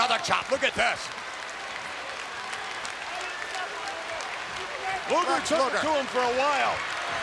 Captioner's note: applause